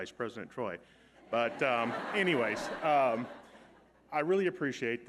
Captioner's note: audience laughing